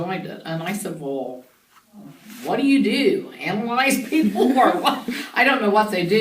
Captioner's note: both laugh